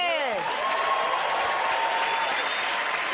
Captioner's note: cheers and applause